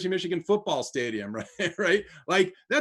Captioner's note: laughs